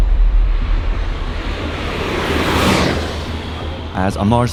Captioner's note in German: vorbeizischender Rennwagen